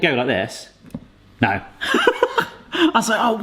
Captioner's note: laughing